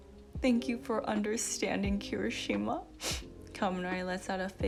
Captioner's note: sniff